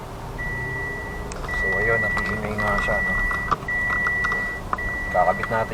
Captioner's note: alarm beeping